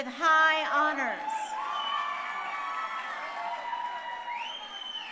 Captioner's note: crowd cheering